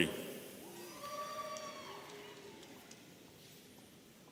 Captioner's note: audience cheering